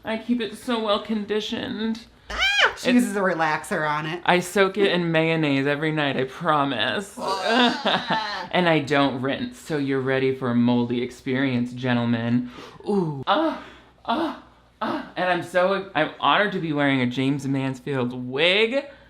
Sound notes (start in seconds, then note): 2.3 squeals; 7.2 gags; 12.8 moans